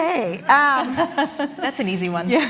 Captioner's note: laughter